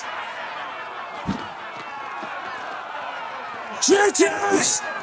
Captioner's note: crowd cheering